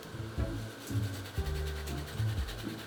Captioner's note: grating